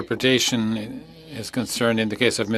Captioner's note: speaking French